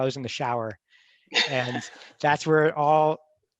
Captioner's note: laughs